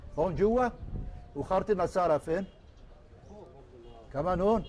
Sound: Arabic

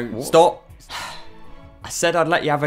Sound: sigh

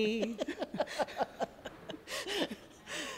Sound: laughter

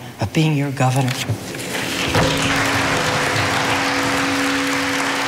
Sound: audience applauding

